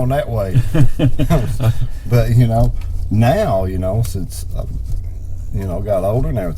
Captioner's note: chuckling